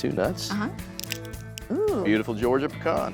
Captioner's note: cracking sound